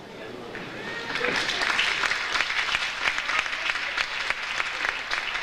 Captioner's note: audience applauds